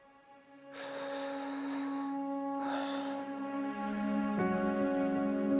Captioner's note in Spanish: Suspiros